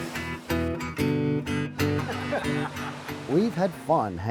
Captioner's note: laugh